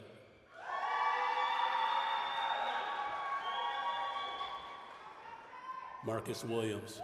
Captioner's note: applause, cheering